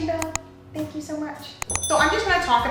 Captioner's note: bell dings